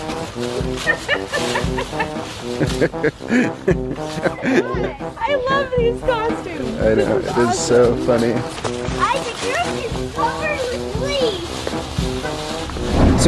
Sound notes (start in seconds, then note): 1.5 laughing